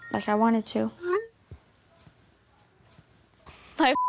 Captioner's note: cellphone chiming